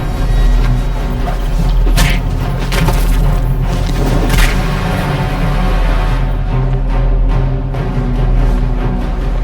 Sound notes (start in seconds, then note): 0.3 dramatic music; 1.8 body thuds; 1.9 hit thuds; 5.7 dramatic music continues